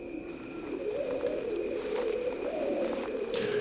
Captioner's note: footsteps and Cold Wind